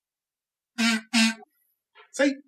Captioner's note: hums a couple of notes